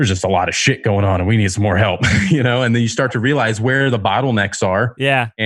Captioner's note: laughs